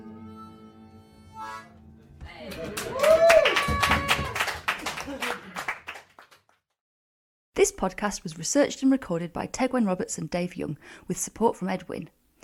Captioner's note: applause